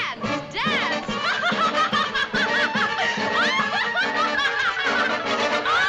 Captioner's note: laughing